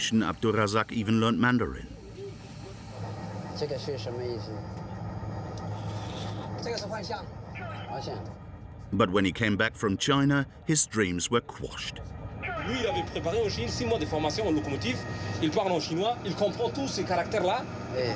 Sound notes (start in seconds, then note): 6.9 conductor speaking foreign language; 12.6 speaking foreign language